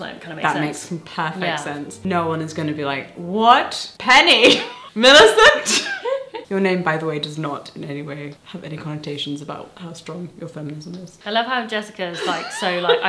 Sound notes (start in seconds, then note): 4.4 laughs